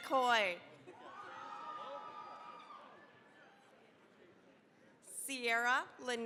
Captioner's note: cheering, applause